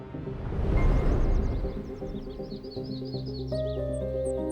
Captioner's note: birds chirping